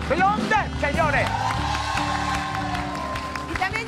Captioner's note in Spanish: Ovación